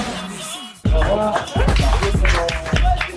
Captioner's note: staff clapping